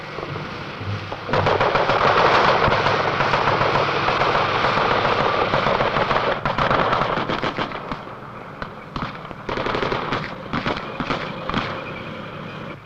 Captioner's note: footsteps; gun shots